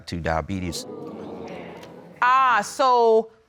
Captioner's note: audience exclaiming